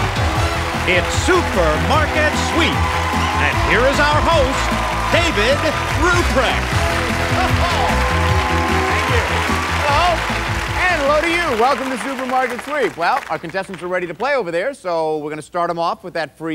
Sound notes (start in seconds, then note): 7.1 cheers and applause